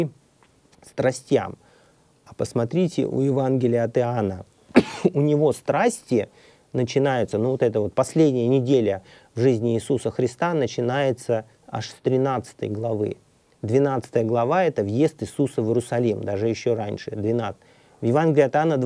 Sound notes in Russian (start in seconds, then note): 4.7 откашливается